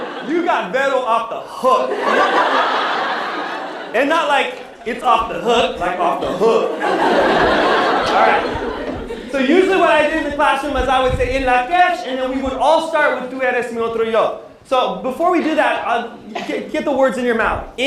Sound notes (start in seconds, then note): 13.4 non-english speech